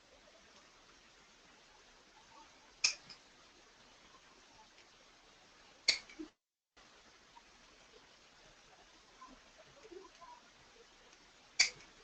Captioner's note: silence